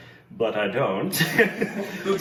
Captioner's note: laughs